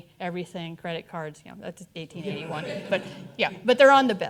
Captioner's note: audience chuckling